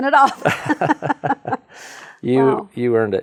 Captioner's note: chuckling